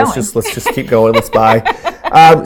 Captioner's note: laughing